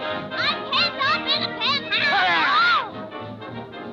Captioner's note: Olive muttering